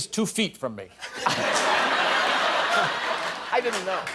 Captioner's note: laughter